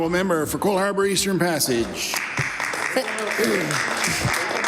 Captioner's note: some Applause